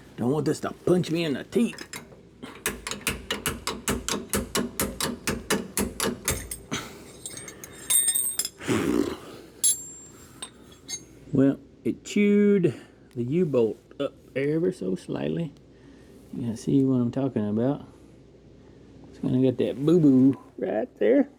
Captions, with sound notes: Don't want this to punch me in the teeth. (Tapping) (Sighs) Well, it chewed the U-bolt up ever so slightly. You can see what I'm talking about. It's gonna get that boo-boo right there.